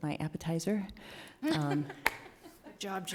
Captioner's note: people laughing